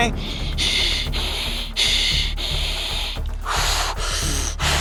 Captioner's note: heavy breathing